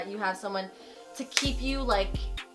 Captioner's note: hands clapping